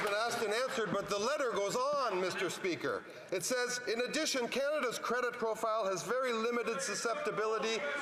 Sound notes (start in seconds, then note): 0.0 some Applause